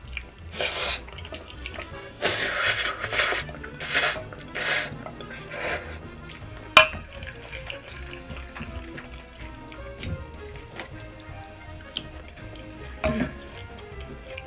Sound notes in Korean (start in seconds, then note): 2.4 후르릅 후르릅